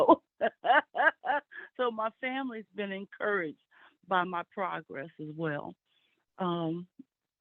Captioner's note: laughs